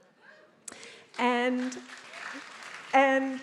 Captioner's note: attendees applauding